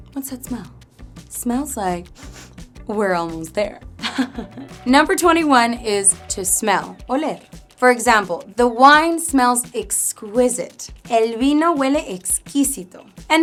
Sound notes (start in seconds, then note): 4.0 lightly chuckles